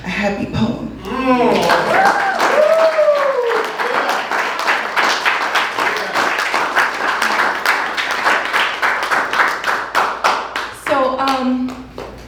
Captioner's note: applause